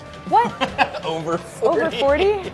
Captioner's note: laughing